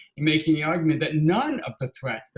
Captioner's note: none